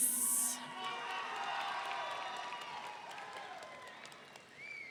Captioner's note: audience cheering